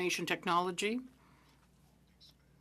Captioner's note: speaking French